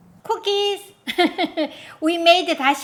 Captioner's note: laughs